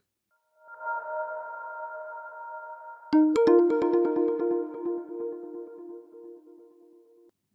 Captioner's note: pleasant intro sound